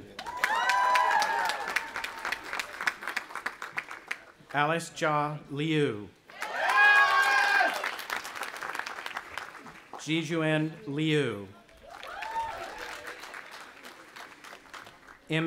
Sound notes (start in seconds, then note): 0.0 audience applauding and cheering; 6.3 cheering; 11.7 audience applauding and cheering